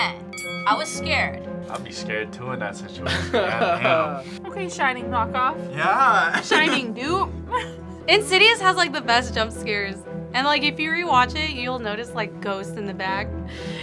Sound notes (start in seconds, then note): 3.0 React laughs